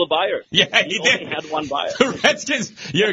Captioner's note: laughing